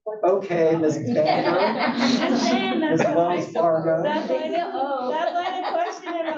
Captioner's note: laugh